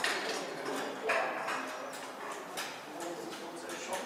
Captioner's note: background conversation, clattering